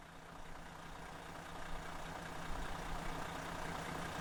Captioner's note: engine idling